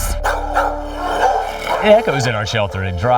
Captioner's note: Gemini barking